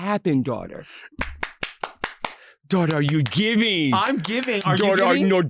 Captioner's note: clapping